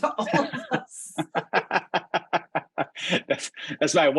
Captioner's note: laughter